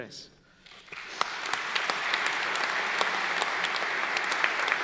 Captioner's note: crowd clapping